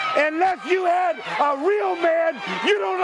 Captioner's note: crowd cheering